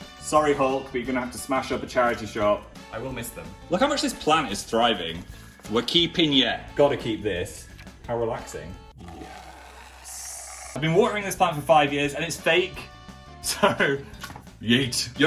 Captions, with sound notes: Sorry Hulk, but you're gonna have to smash up a charity shop. I will miss them. Look how much this plant is thriving! We're keeping ya! Got to keep this, how relaxing (scrapes) I've been watering this plan for five years and it's fake, so yeet.